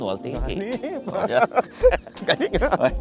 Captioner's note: laughs